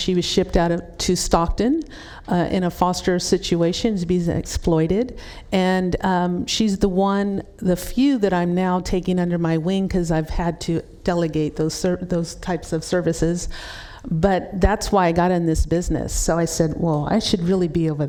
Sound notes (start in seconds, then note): none